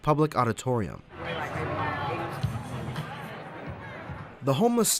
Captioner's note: crowd chatting